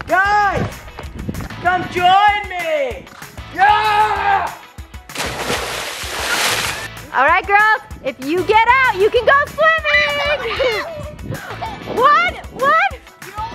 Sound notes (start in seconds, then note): 3.5 shouts; 5.1 loud splash; 10.7 girls screaming